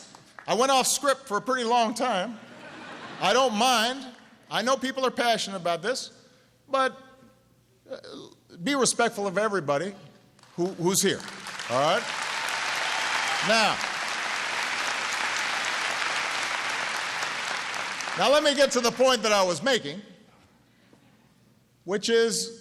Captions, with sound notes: down. I went off script for a pretty long time. (Laughter.) I don't mind. I know people are passionate about this. But be respectful of everybody who’s here. (Applause.) All right? Now, let me get to the point that I was making, which is even if we deported all the criminals,